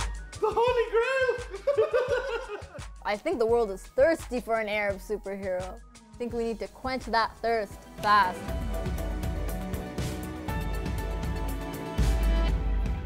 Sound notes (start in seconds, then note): 1.5 laughter